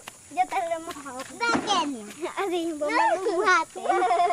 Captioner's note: speaking Spanish